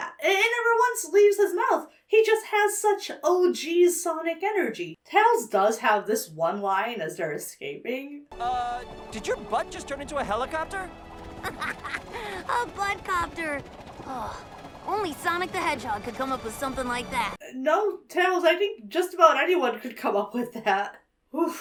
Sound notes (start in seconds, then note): 11.2 Tails laughs; 13.6 Tails gushes